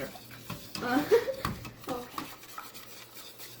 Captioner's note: laughs